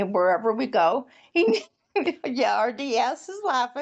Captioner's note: laughs